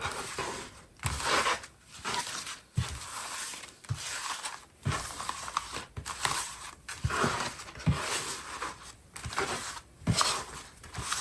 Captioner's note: drawing cards